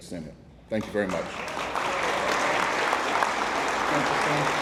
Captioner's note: attendees applauding